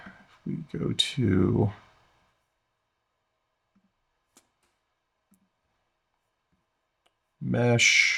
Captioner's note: silence